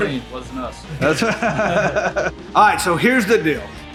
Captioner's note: laughing